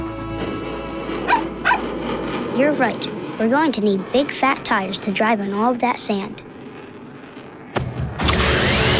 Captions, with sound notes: [barking] You're right. We're going to need big fat tires to drive in all of that sand.